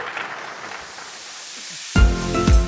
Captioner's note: audience applauding; upbeat music